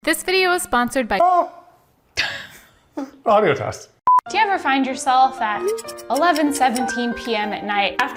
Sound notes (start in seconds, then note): 2.5 laughing; 4.0 beep